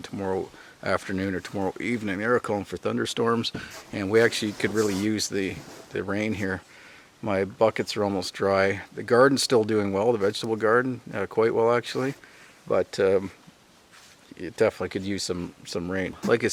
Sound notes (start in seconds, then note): none